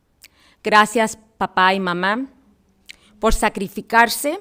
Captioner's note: foreign language